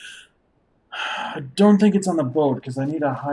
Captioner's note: sighs